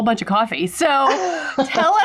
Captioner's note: laughing